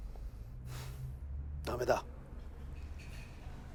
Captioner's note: sighs